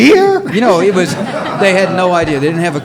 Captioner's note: audience laughs